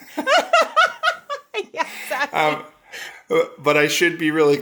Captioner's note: laughs